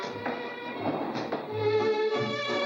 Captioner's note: ballroom music; elevator doors shut; ballroom music